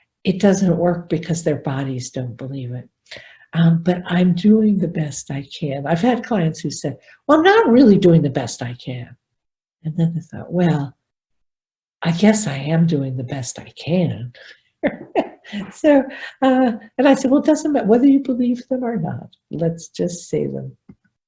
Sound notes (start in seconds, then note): 14.9 laughs